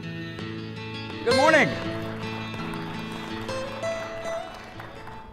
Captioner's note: country music; audience applauds